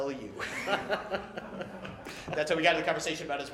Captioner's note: laughter